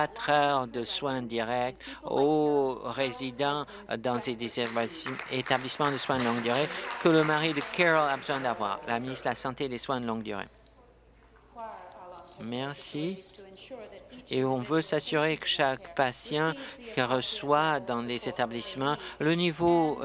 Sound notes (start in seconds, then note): 8.9 applause